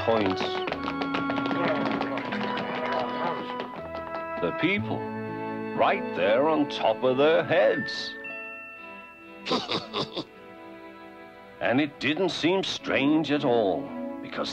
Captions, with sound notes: (clamoring) The people, right there on top of their heads. (snickers) And it didn't seem strange at all, because that's the way life was, in the village.